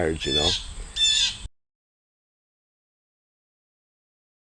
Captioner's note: bird chirping